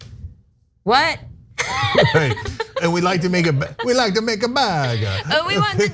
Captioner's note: laugh